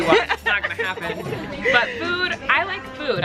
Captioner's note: laughing